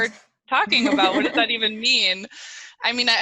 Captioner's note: laughing